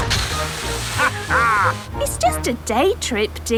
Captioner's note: captain dog laughs